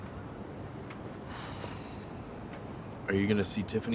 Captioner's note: Fern sighs